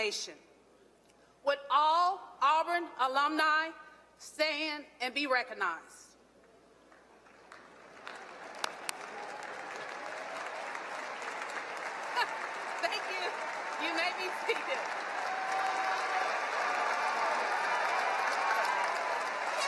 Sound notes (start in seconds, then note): 6.8 applause and cheering